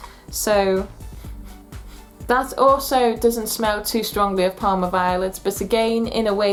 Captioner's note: sniff